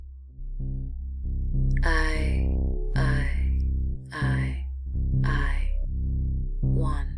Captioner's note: voiceover